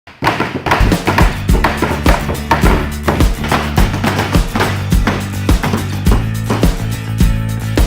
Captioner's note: hammering nails